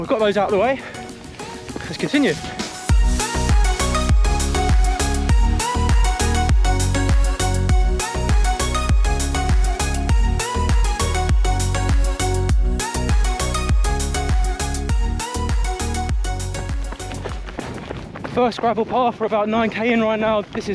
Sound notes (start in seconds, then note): 3.4 calm music; 16.8 gravel crunches